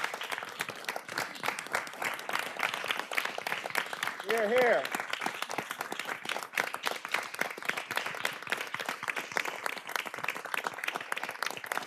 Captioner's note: applause